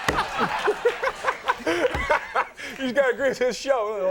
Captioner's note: everyone laughing; Will laughing